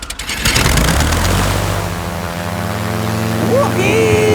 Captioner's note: plane humming